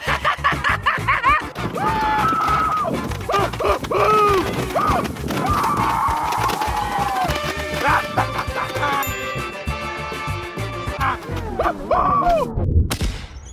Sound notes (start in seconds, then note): 0.0 maniacal laughter; 2.0 maniacal screaming; 7.6 more maniacal laughter; 11.5 more maniacal screaming